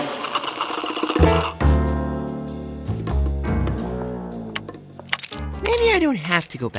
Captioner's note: slurping